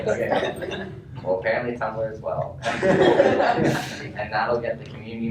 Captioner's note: laughter